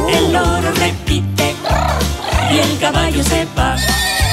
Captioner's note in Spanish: Relincho